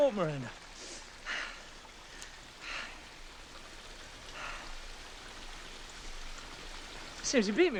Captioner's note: heavy breathing, water flowing